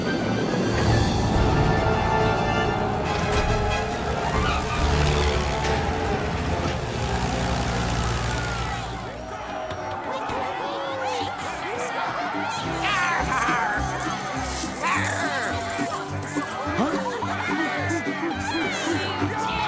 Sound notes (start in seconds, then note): 3.9 engine roaring; 9.4 celebratory shouts; 16.4 funky music